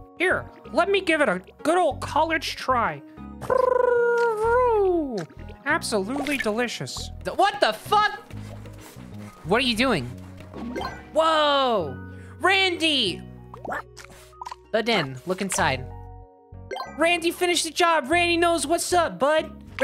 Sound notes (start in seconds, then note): 3.4 tongue trilling